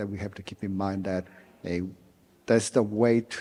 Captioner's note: none